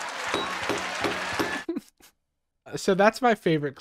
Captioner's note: all laughing; gavel banging; laughing